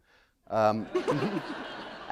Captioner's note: laughter